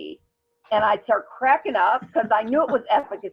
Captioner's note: chuckles